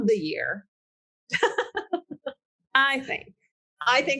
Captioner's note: laughing